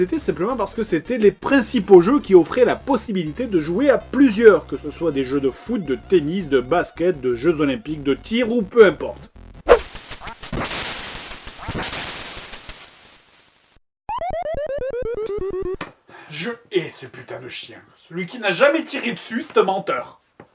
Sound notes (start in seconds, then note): 9.4 Duck Hunt sound effects